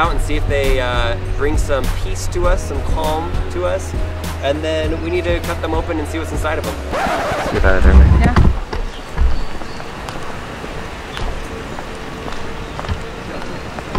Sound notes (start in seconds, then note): 11.0 footsteps